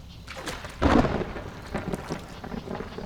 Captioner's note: A clap of thunder